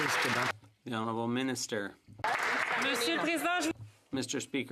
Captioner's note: some Applause